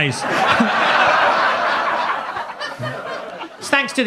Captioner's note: audience laughs